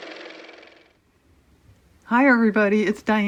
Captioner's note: car motor